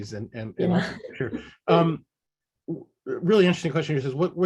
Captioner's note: chuckle